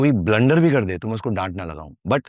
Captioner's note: non-english speech